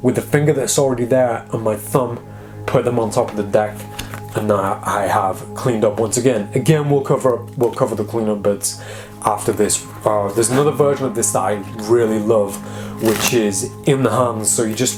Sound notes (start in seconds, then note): none